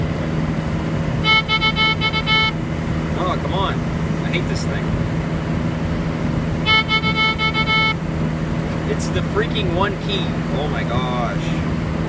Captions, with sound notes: *Doot Doot Doot Doot Doot* Aw! Come on. I hate this thing. *Doot Doot Doot Doot Doot* It's the freaking one key. Oh my gosh.